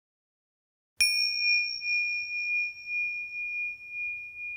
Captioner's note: bell chimes